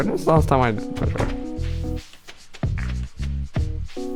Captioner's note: quietly